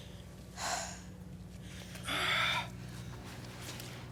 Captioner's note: Jane exhales deeply; exhales deeply